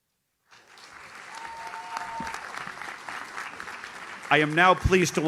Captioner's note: audience cheers